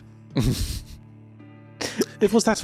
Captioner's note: laughs